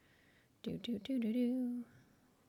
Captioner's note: humming tune